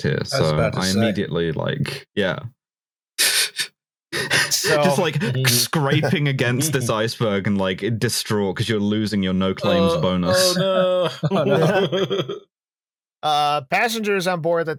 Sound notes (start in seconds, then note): 4.1 laughs breathily; 10.2 laughter